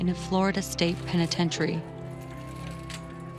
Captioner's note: siren wails